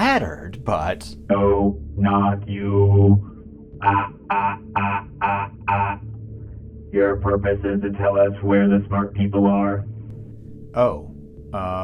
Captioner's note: robot Laugh